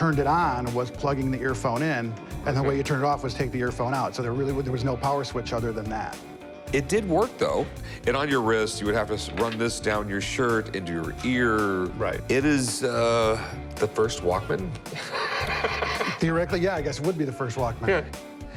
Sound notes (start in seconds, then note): 14.9 laughs